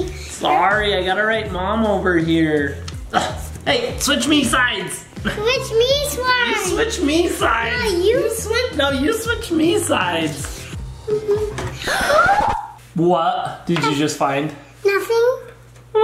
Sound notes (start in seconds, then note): 11.8 gasps